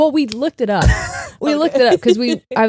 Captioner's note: chuckling